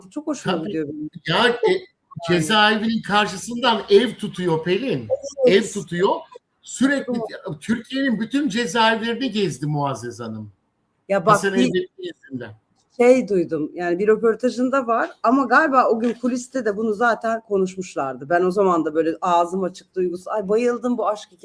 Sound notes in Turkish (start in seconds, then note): 7.2 boğazını temizler